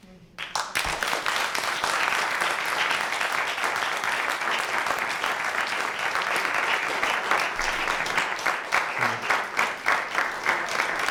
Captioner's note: applause